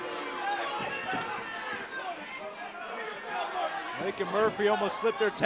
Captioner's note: crowed cheering